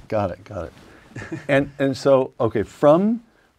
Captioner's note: laugh